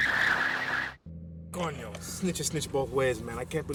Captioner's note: tires squealing; car engine rumbling